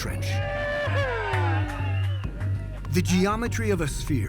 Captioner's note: cheers and applause